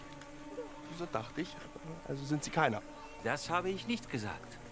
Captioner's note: Rhythmisches metallisches Dröhnen